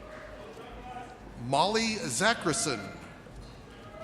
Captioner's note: none